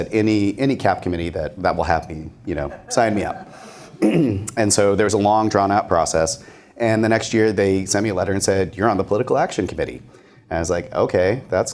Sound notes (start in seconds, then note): 2.6 laughter